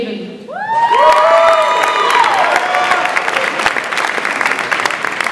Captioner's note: audience applauds and cheers